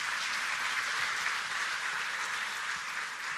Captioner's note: applause